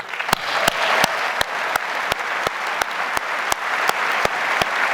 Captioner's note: audience applauds